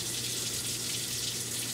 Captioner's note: water Running